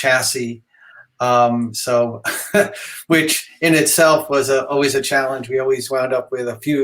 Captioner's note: laughs